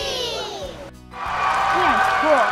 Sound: cheering and applause

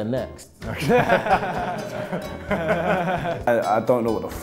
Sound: laughing

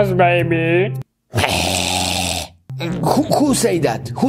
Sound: baby growls

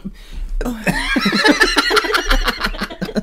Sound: embarrased Laughter

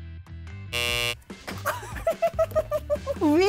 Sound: buzzer buzzing; laughing

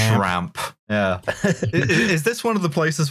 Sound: laughs

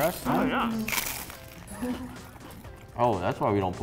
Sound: crunching

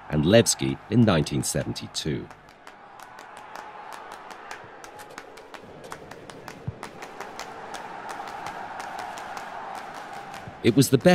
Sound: applause

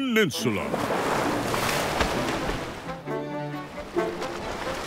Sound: water splashing

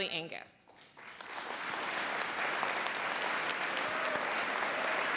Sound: applause

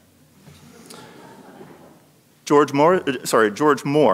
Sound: audience laughing

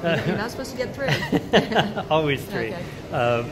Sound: laughs

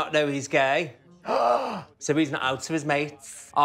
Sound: gasping

